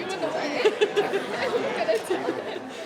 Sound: woman laughing

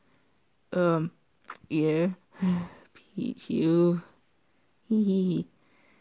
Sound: sigh

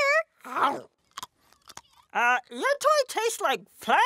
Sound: chomps

